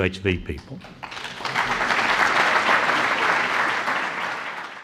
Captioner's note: applause